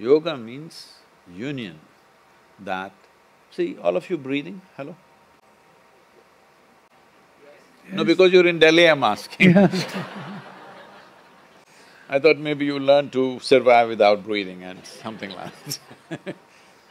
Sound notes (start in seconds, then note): 9.3 laughs; 9.4 laughter; 16.7 laughs